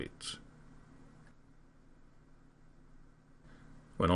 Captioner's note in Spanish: Silencio intencional